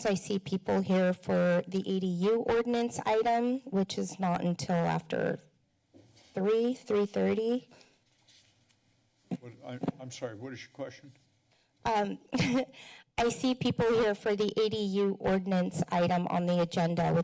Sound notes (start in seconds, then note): 12.3 chuckles